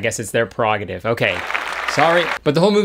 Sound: audience applauding

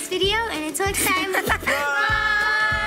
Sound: spits

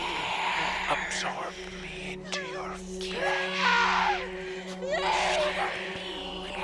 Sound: Brigit screaming

